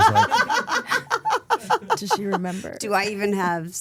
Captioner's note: Steph laughing